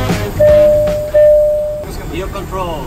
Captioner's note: dinging